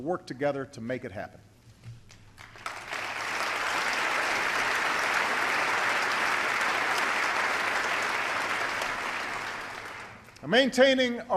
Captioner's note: applause